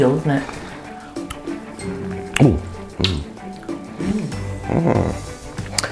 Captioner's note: assorted umms and aahs